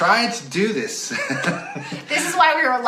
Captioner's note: laughs